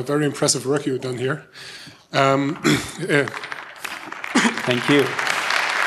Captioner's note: applause